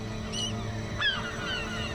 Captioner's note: loud squawking